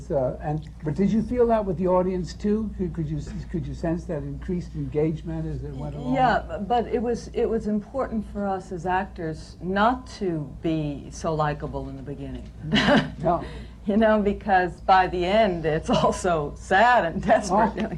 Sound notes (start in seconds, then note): 12.9 laughs